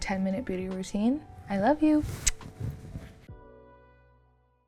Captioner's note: lips smack